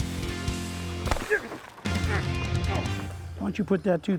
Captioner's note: dramatic music; loud grunting